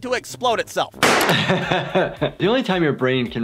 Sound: explosion; laughter

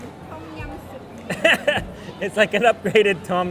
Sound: laughs

